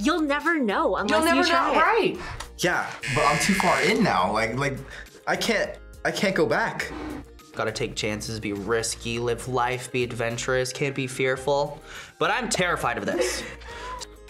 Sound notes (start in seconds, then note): 3.0 buzzer rings